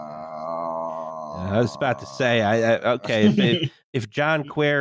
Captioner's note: moans